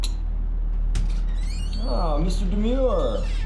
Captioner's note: door squeaking